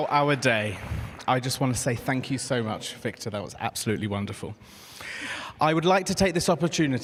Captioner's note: applause